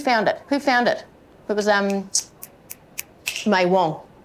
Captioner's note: clicks fingers